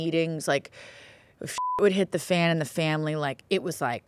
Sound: beep

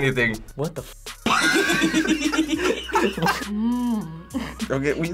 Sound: both laugh; laughs

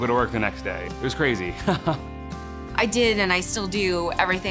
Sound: chuckling

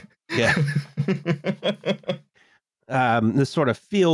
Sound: laughs

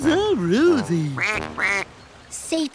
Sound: quacking

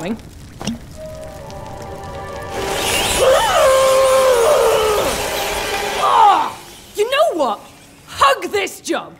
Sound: Lucy screams, muffled over the bats screeching

